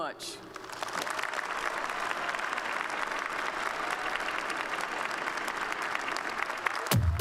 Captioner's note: applause